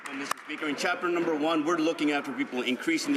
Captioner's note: some Applause